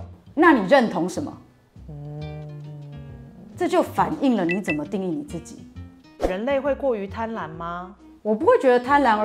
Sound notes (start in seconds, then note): 1.8 hmmm